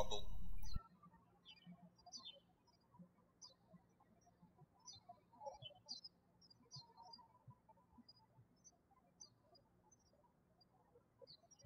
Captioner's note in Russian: птички щебечут